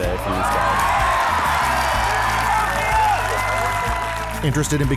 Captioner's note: audience cheering